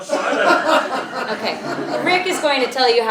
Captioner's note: laugh